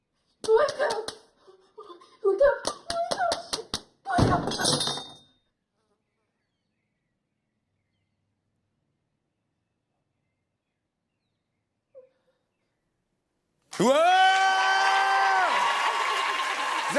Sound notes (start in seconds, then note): 4.6 knife clatters; 13.7 cheers and applause